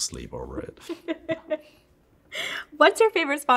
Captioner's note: laughs